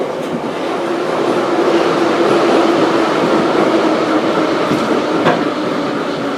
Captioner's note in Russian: торможение - прибытие на станцию